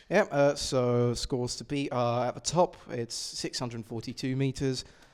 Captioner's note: none